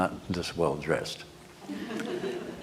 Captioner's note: laughter